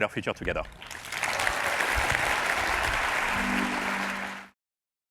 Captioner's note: cheers and applause